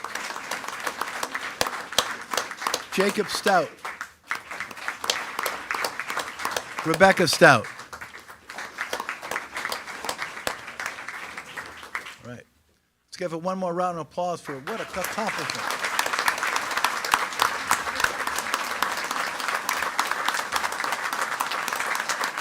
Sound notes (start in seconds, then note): 0.3 attendees clapping; 4.8 attendees clapping; 8.8 attendees clapping; 16.2 attendees clapping